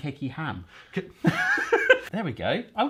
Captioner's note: both laughing